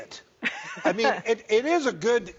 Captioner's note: laughs